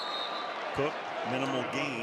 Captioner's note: whistle